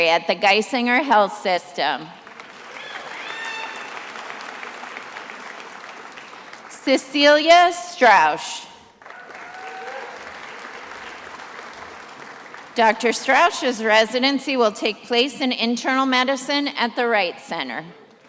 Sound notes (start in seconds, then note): 2.2 attendees applauding; 8.9 attendees applauding